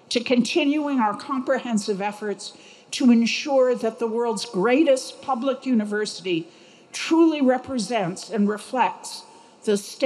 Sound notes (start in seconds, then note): none